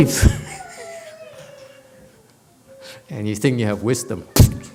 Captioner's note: laughs